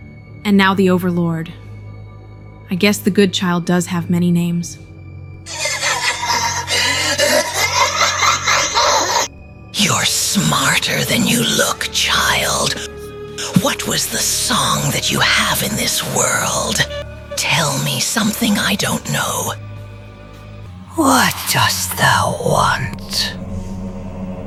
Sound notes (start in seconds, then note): 5.4 laughing